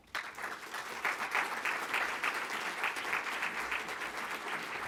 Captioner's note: audience applauding